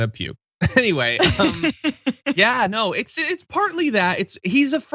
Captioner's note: laugh